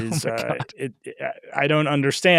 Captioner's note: chuckling